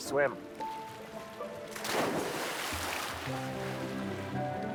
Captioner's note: splashing